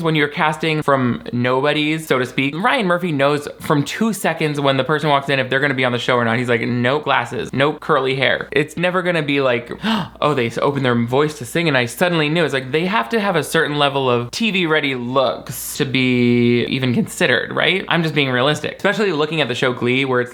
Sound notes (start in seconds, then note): 9.7 gasps